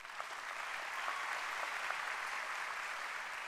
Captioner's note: applause